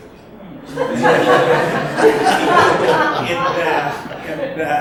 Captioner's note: audience laughs